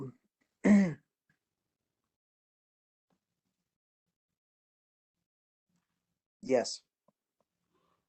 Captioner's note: cough